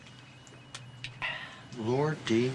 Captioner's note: sighs